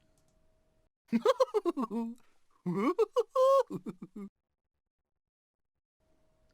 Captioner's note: mr tickle chuckling